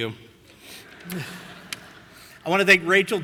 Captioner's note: audience laughing